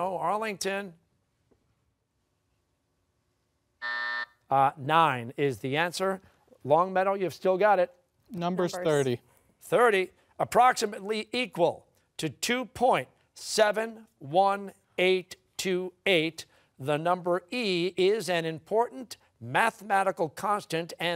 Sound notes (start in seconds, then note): 3.8 buzzer